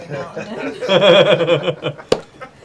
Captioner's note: laughter